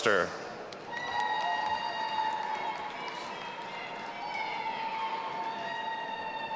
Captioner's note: audience applauding and cheering